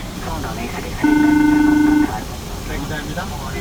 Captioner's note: phone ringing